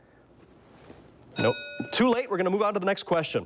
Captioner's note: bell dings